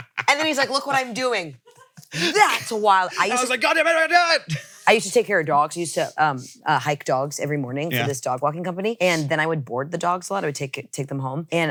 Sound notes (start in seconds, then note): 4.1 shouting